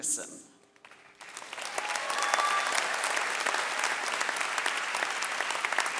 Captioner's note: audience cheering and clapping